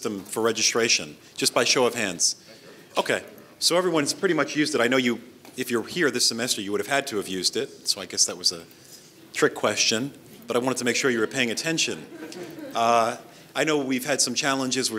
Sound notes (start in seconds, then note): 11.2 audience laughs